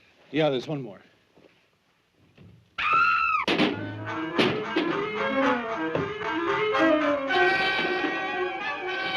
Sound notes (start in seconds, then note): 2.8 screaming